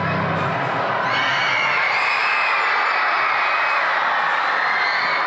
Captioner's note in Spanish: Gritos